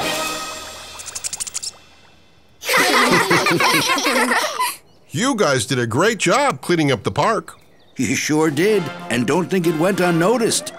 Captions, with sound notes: [laughing] You guys did a great job cleaning up the park. You sure did, and don't think it went unnoticed.